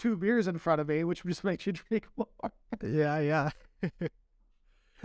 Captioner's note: laughter